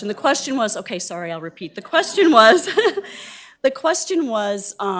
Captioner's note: laughing